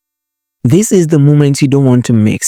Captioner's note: voiceover